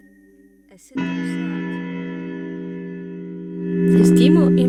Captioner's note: clock chimes